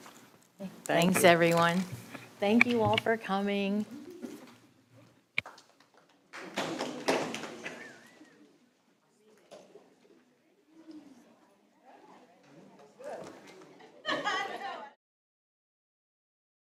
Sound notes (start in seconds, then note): 5.4 a few people clapping; 9.0 overlapping chatter; 14.4 audio cuts off